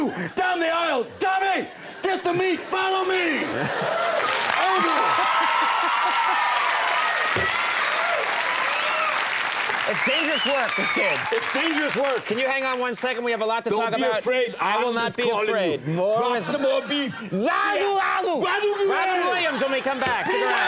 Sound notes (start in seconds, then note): 3.6 audience laughs and applauds